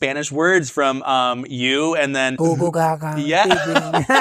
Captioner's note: friends laughing